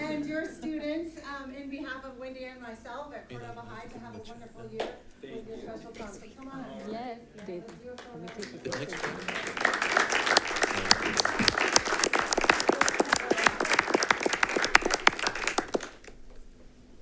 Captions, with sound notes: and your students in behalf of Wendy and myself at Cordova High, so have wonderful year. (people chattering indistinctly) (attendees applauding)